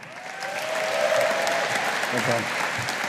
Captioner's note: audience applauding